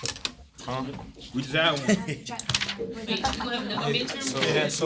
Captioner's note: students murmur